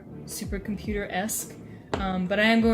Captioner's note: tap